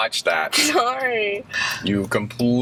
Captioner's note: laughs